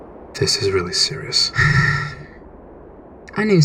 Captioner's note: Cinder sighs